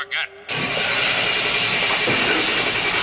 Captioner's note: zapping